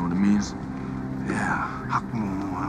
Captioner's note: speaks Mandarin